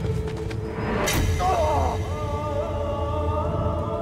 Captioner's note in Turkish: İnilti sesi